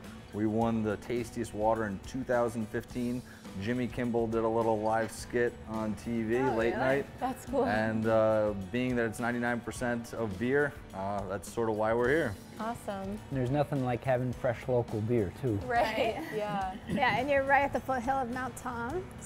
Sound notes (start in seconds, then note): 7.8 laughs